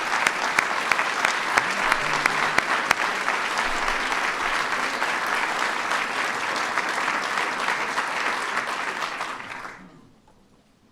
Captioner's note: applause